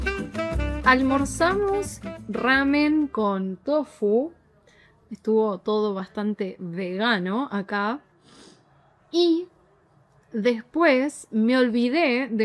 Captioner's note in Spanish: resoplido